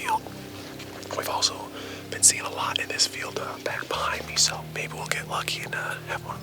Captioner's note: whispering